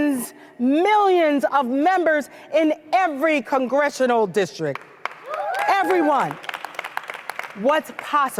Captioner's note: applause